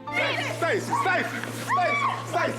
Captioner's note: screaming